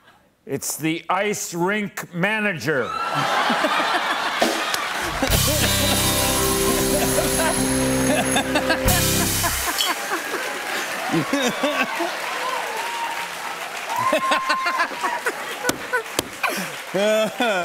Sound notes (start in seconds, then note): 3.0 laughter; 5.0 band plays; 9.2 cheers and applause; 13.5 laughing